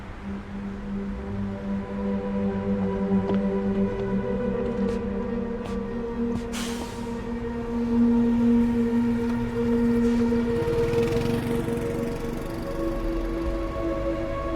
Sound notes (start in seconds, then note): 0.2 dark music; 3.4 footsteps clacking; 10.9 motorcycle engine revs